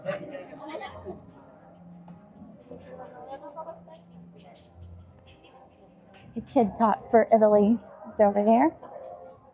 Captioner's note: chattering